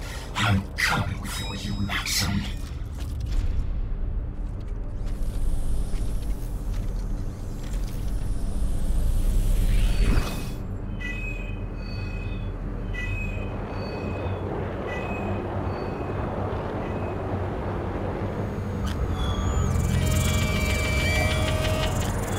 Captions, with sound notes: I’m coming for you, Maxim... [Medallion Beeps] [Medallion Beeps Strangely]